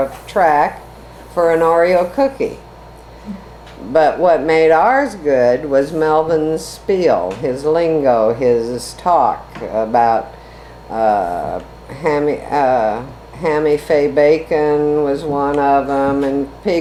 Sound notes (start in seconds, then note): none